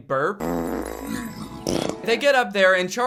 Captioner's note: fart and burp noises